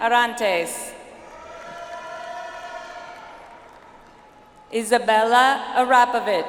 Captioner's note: audience applauds